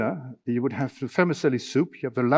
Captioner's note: speaking in foreign language